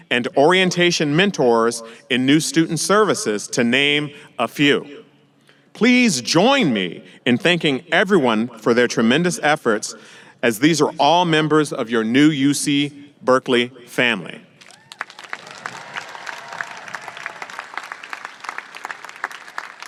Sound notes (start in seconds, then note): 14.6 audience applauding and cheering